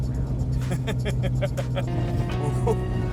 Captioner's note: laughs